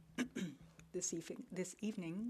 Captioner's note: speaking French